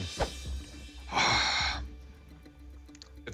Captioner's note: sighing